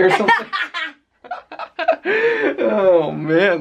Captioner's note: laughter